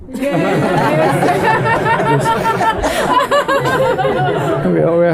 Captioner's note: laughter